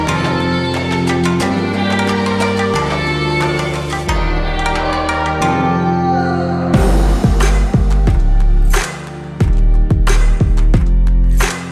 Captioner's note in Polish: Aplauz